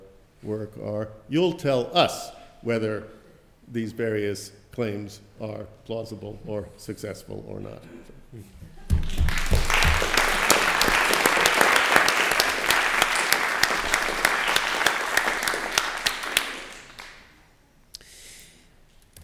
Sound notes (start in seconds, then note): 9.0 applause